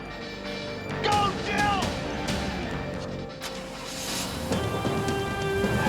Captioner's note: dramatic music; car screeches